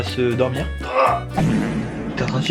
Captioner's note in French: prout